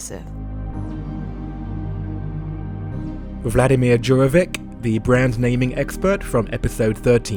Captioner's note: voiceover